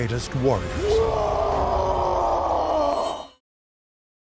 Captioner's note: roaring battle cry